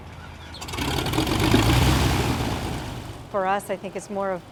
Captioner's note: plane motor running